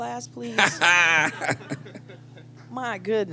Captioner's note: laughter